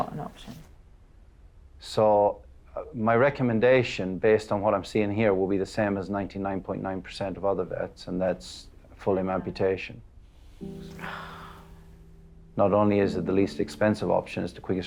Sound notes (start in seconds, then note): 10.6 sighs